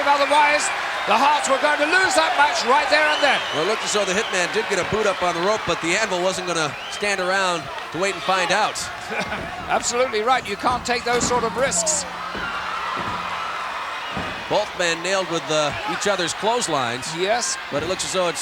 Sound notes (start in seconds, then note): 9.0 chuckling; 12.2 audience cheering